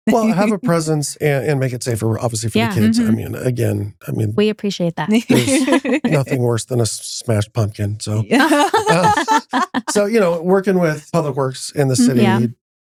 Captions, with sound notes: Well, have a presence and make it safer, obviously for the kids. Again, I mean-- We appreciate that. There's nothing worse than a smashed pumpkin. (Laughing) So working with Public Works in the city,